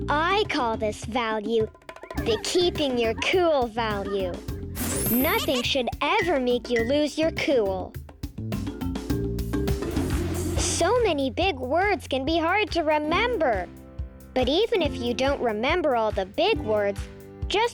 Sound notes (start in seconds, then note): 2.0 children giggling; 9.0 planet clinking; 13.7 upbeat music